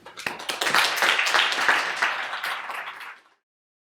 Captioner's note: audience applauds